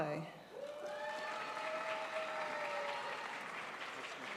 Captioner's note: audience applauds